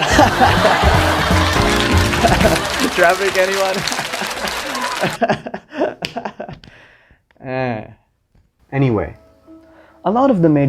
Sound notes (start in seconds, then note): 0.0 canned laughter; 3.8 laughter abruptly cuts off; 7.7 dejectedly